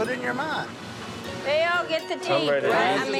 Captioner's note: overlapping chatter